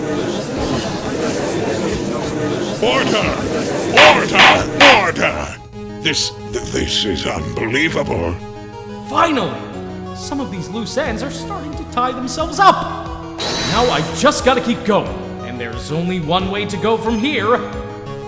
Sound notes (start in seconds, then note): 0.3 gallery chattering!; 4.9 gavel slams!